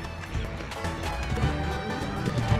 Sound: steps

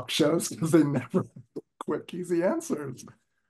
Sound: laughter

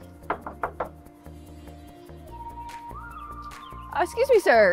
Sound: upbeat music; knocks

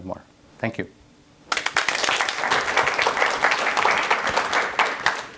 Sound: applause

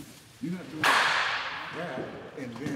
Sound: bat cracking

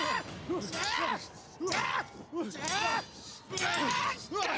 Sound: screams

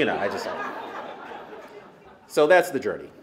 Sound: laughter

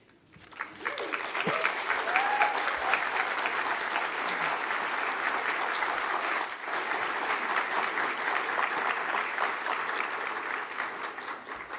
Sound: applause

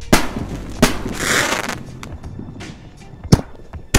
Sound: fireworks popping; fireworks crackling; fireworks popping

